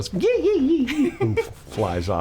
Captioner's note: laughing